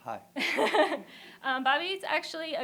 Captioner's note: laughter